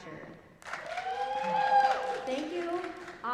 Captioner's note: applause